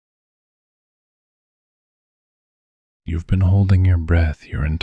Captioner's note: soft voice